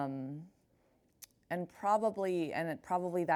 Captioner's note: lips smack